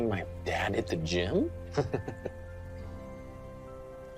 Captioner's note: chuckles